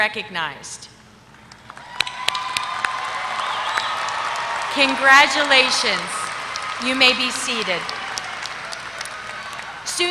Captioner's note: applause